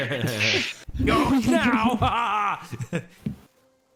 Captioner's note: chaotic voice